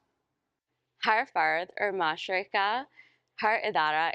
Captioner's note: speaking urdu